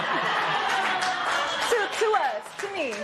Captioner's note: laughter